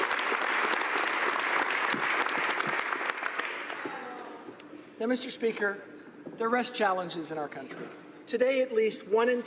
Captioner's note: applause